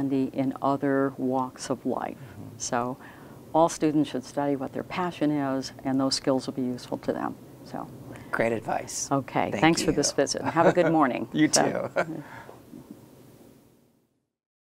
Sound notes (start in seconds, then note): 10.3 laughing